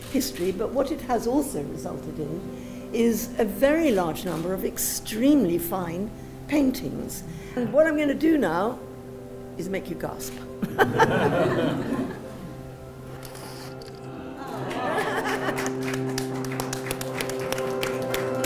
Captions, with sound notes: but what it has also resulted in is a very large sum of extremely fine paintings. What I'm going to do now is make you gasp. (Laughter) (Applause)